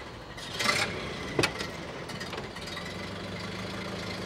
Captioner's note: car engine starting up